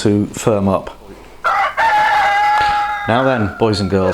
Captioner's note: rooster crowing